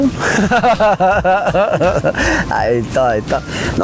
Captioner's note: chuckles